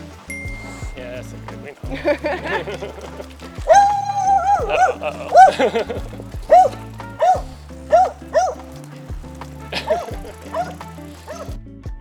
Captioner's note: dog barking; laughs